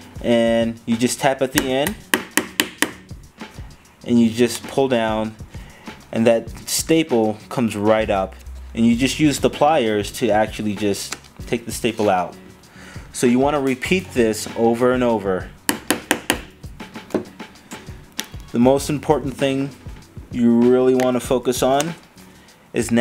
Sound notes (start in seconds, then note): 1.6 tapping; 11.1 popping; 15.6 tapping